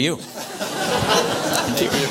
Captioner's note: audience applause